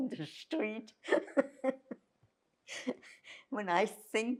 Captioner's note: laughing